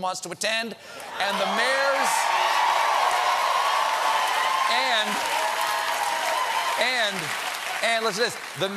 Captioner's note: cheers and applause